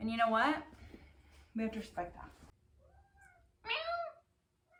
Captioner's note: meows